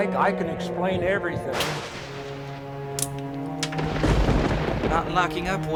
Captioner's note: thunder crashing